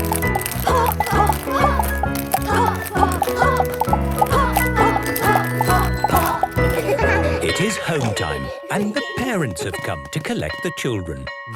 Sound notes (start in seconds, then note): 6.6 laughter